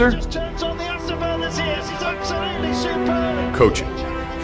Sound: announcer speaking in foreign language

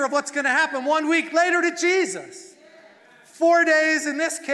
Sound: congregation cheering

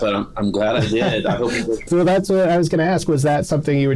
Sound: laughter

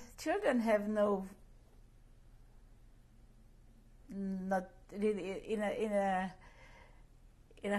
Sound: pauses for 3 seconds

